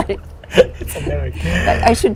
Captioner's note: laughter